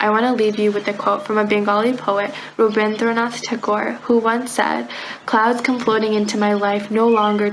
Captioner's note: foreign language